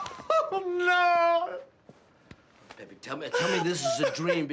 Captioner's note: sobbing